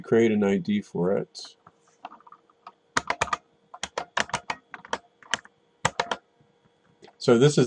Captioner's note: typing